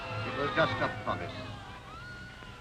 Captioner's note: people screaming